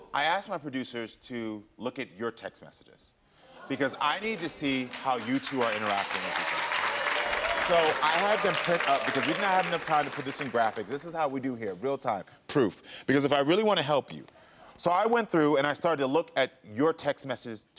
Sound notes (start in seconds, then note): 6.7 audience applauds